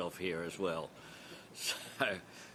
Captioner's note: laughter